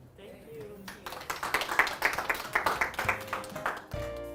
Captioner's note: applause; closing music